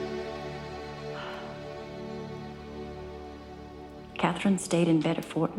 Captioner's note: exhaling